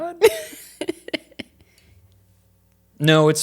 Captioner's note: laughing